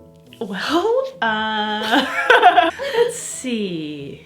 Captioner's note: laughs